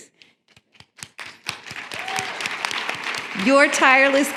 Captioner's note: applause